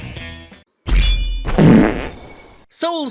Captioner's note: as Skeletor; sword drawn, loud fart